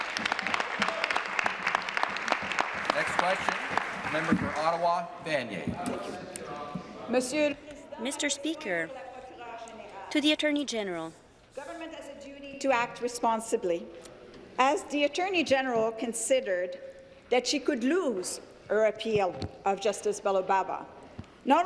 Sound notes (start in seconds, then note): 2.2 applause; 10.2 speaking in French